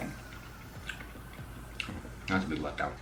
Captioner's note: chewing